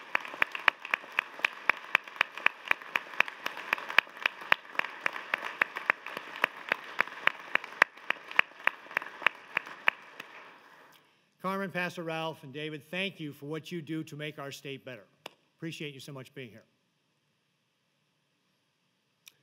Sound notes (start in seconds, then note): 2.5 applause